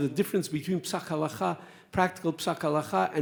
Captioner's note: speaks Hebrew